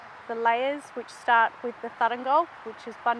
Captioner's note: speaking in Woi Wurrung traditional language